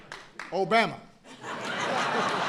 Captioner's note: laughter